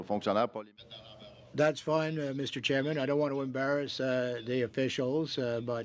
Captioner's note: speaking French